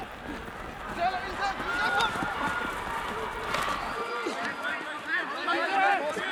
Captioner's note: shouting in afrikaans